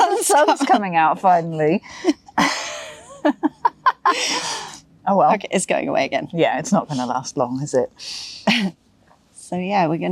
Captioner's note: giggles